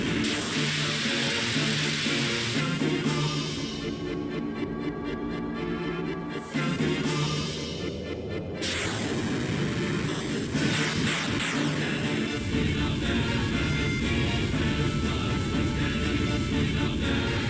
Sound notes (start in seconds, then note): 0.1 dramatic music; 9.2 explosions booming